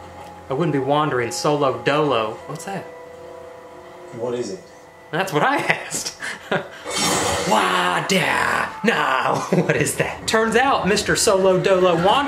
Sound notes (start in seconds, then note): 5.6 laughs; 6.8 exhales heavily